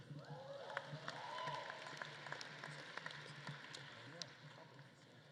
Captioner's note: audience claps and cheers